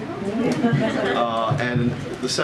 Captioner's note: laughter